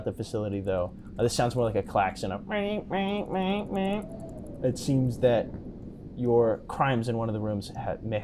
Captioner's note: alarm going off